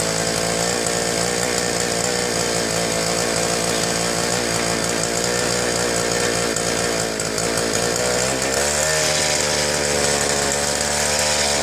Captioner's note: engine running poorly